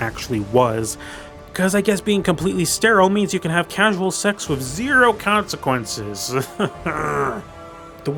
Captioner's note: groan